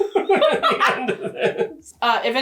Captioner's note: both laughing